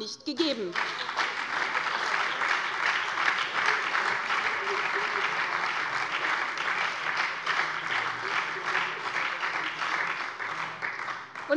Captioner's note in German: Beifall bei der SPD und der FDP